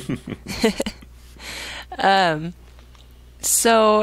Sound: both laughing

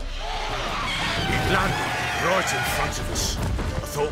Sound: screech

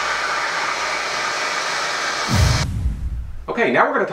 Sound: vacuuming

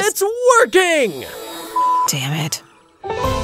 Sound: beep; upbeat adventurous music

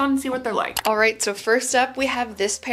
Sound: mouse clicks

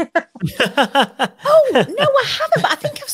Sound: laughs; laughing

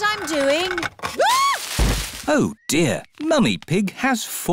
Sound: screams; thuds

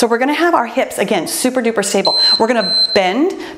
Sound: timer beeps

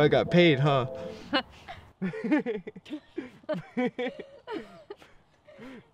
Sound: laughter

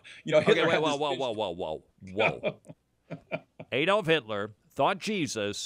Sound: laughs

